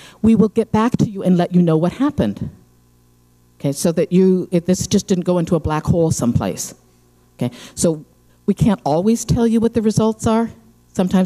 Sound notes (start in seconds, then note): none